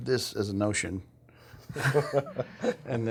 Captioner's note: laughter